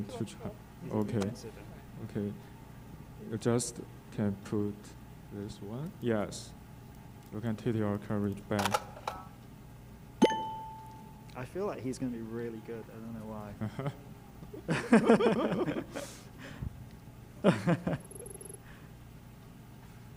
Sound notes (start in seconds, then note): 8.8 cartridge clicking; 10.2 game beeping; 14.4 laughing; 18.0 text beeping